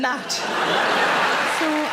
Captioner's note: audience laughing loudly